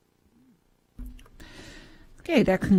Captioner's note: microphone cut off